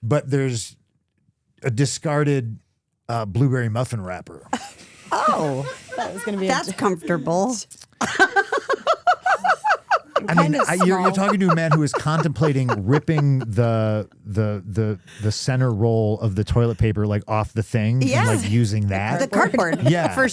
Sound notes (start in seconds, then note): 8.0 laughing